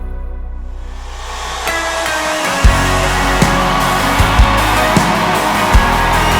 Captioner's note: loud audience cheering, uptempo music